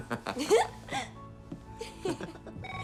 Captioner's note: chuckles; both laughing; phone rings